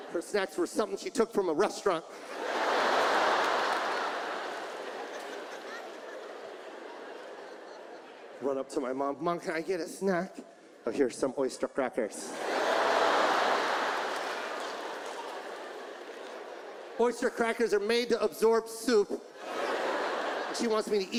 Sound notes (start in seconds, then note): 2.0 audience laughs; 12.2 audience laughs; 19.3 audience laughs